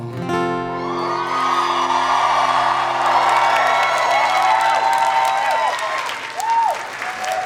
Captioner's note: audience cheering; audience applauding